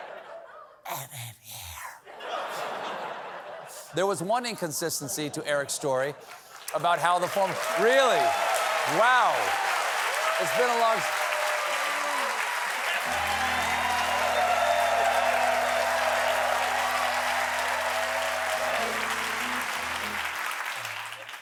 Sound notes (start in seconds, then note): 2.1 laughter; 8.7 applause; 16.1 cheers and applause